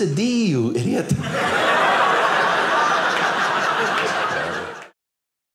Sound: audience laughing

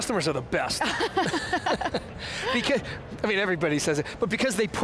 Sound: laughing

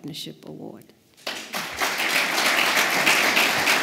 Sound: applause

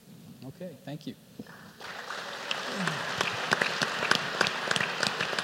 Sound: applause

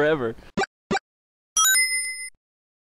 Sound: ding!

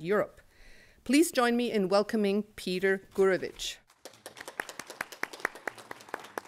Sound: applause

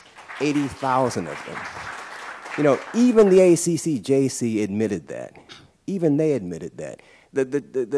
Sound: applause

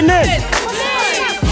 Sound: crowd; upbeat music

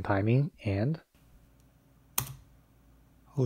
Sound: keyboard typing

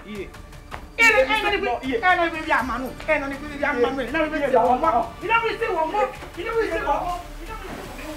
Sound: curses

